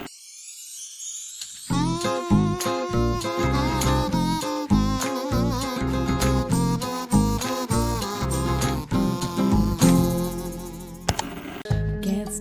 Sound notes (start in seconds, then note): 0.1 kazoo music; 11.0 static; 11.1 ka-chunk